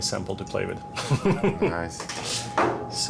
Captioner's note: chuckles